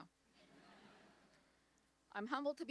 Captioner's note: audience laughs